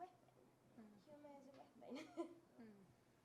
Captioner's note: laughs